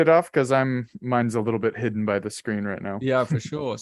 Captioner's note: chuckles